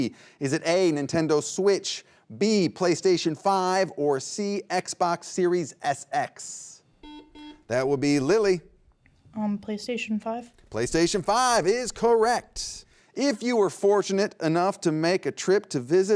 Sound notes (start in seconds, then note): 7.0 buzzer beeps